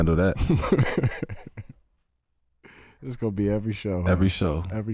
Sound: chuckles

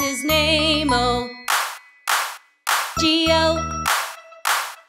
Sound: claps, claps, claps

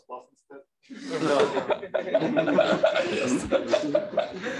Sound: laughter

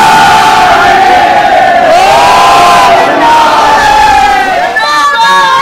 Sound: chants

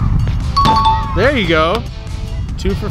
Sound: ding

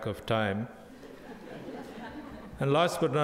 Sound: crowd laughing

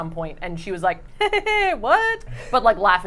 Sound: chuckling

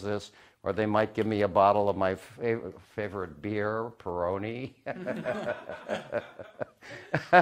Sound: Rires

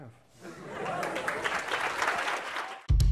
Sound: applause

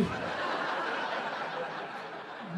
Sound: audience laughing

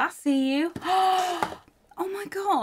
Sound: gasps

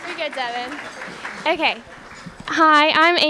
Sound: applause

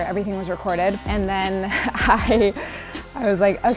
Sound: laughter

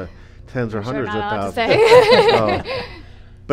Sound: laughs

